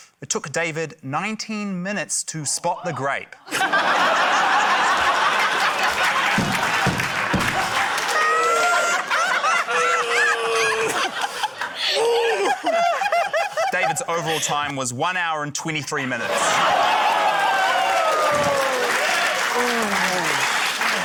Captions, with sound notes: It took David 19 minutes to spot the grape. (LAUGHTER) (APPLAUSE) - (GROANS IN FRUSTRATION) - David's overall time was one hour and 23 minutes. (LAUGHTER, APPLAUSE)